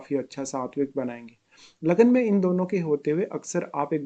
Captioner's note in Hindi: नाक से की जाने वाली आवाज़